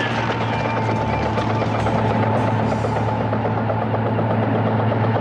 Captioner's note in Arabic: هدير المروحية